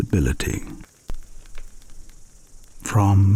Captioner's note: fire crackling and night insects buzzing